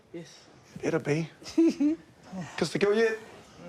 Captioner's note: chortles